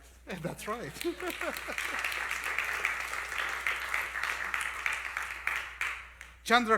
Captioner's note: applause